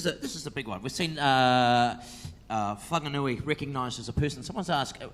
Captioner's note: speaks in foreign language